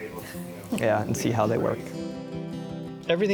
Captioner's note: chuckles